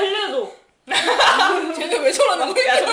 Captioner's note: laughing